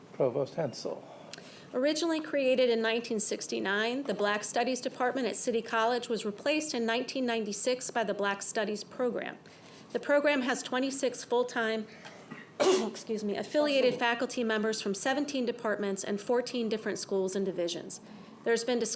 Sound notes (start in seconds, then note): 12.0 coughs